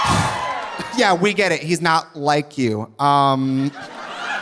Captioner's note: audience cheering; sighs; audience laughing